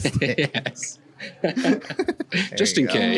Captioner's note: laughs